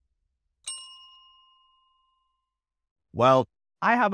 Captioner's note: bell dings